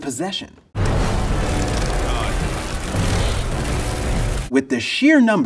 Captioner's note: suspenseful music; wings flapping